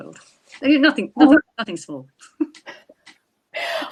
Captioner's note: laughing